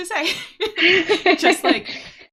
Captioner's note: both laughing